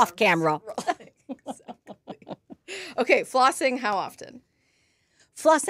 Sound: laughs

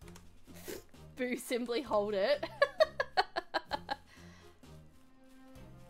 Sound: queue Dragon laughter

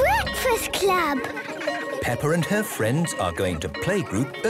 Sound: children giggling

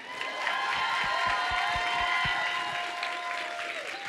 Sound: audience cheers

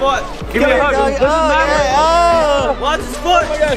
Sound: exclaiming

